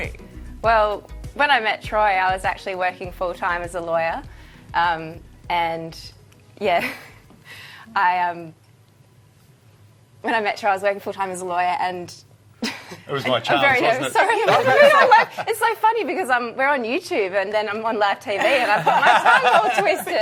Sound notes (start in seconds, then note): 14.3 laughing